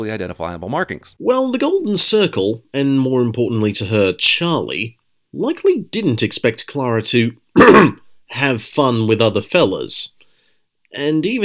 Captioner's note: ahem